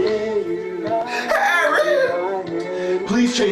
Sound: crying

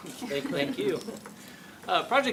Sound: laughs; laughter

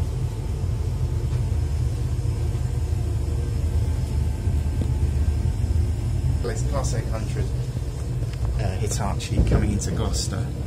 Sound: train noise

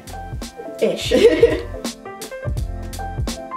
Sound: laughing

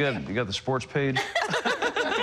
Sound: laughter

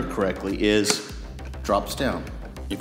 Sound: click

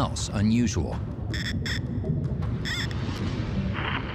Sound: metal detector squealing

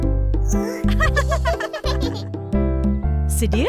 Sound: Upin, Ipin dan Kak Ros gelak

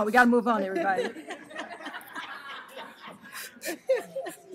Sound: laughter

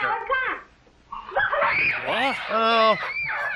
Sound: kids cheering

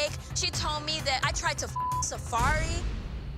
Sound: beep

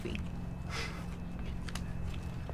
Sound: laughs

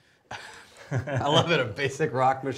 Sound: laughing

